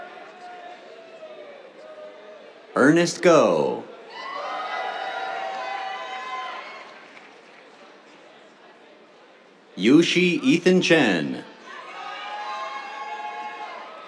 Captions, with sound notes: Ernest Goh. [CHEERS, APPLAUSE] Yu Xi Ethan Chen. [CHEERS]